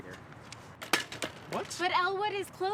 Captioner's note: bike thuds